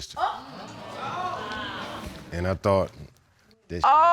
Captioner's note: audience exclaims